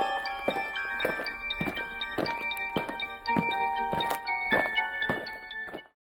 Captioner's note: eerie music; aliens marching